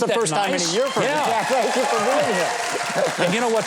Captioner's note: audience cheers